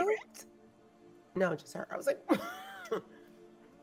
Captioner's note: laughing